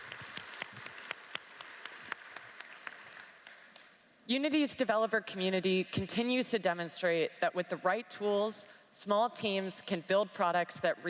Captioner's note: applause